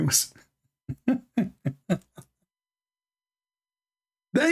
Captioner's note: Ketawa